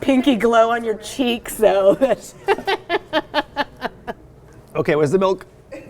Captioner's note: laughs